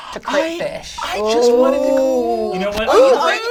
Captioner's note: all gasp